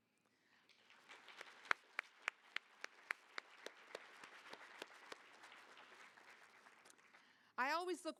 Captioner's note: applause